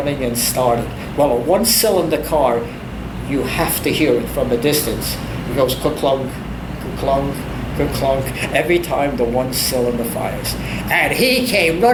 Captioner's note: kerklunk kerklunk kerklunk